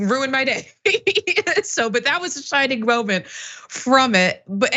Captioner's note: laugh